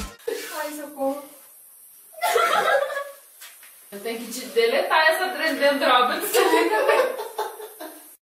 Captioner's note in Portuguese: risadas